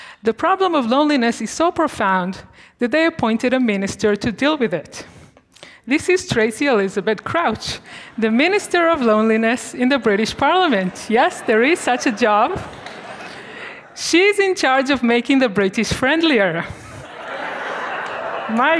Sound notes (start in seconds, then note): 12.6 students murmuring; 16.8 students laughing